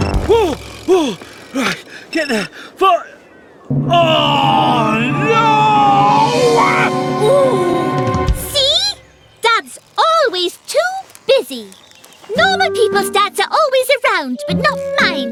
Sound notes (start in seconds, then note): 3.6 ringing Stops